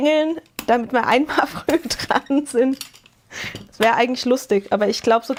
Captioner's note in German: gelächter